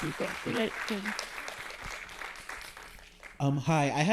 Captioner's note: audience applauding